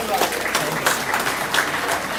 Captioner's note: applause